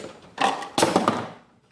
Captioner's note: bobble head clatters